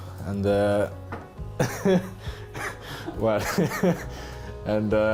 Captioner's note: laughing